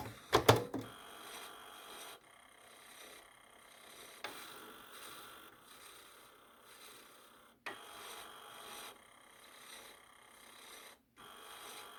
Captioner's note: machine rattles